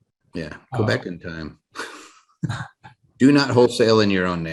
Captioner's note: laughs